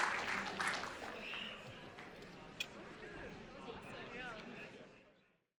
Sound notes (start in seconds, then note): 0.0 audience chattering